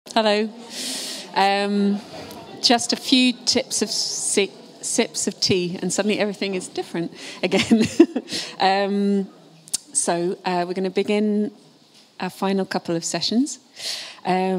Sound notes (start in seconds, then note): 7.5 chuckles